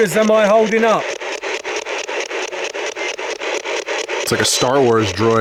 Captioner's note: static ticking